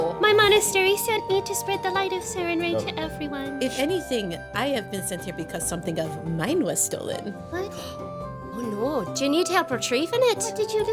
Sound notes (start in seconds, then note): none